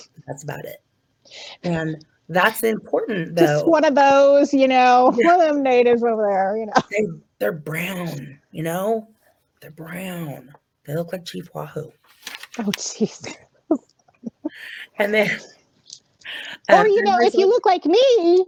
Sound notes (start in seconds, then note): 3.4 mockingly; 6.9 sarcastically; 12.2 laughing